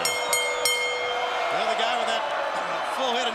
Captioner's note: bell ringing